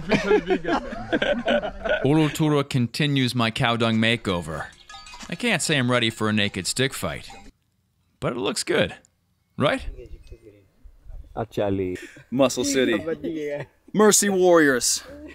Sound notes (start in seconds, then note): 1.8 laughing continues